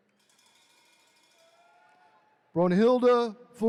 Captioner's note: attendees cheering